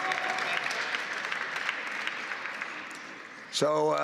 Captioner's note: applause